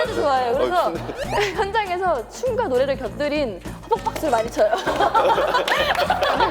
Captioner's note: hesitant